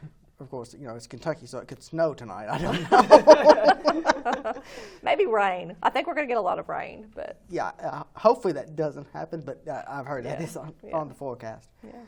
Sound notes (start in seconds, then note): 2.6 laughing